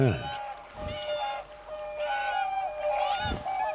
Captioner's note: swans honking